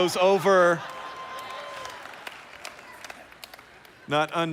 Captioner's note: applause